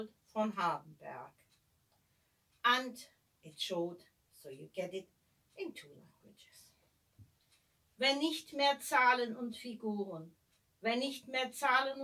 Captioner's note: in german